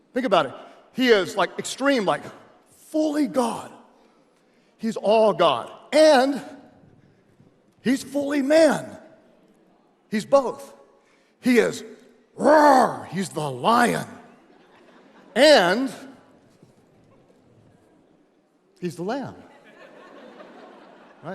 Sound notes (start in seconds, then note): 12.2 roars; 14.3 audience laughs; 19.5 audience laughs